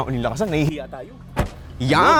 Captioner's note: door thuds